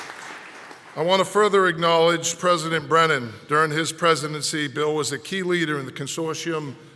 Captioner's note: applause